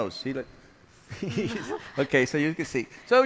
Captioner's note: laughs